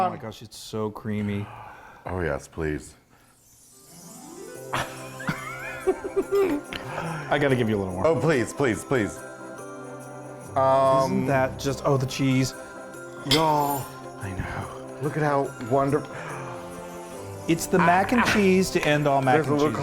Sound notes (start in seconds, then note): 1.4 gasping; 4.7 both chuckling; 16.1 gasping